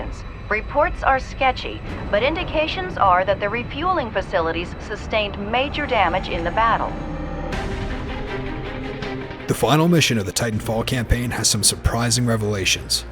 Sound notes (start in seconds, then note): 7.6 energetic music; 9.6 voiceover